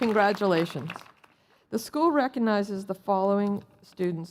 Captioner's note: cheers and Applause